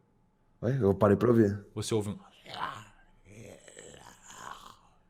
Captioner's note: monster sound; whispering